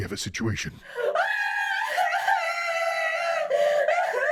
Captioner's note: Chica wailing